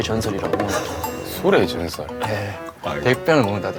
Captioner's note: hahahaha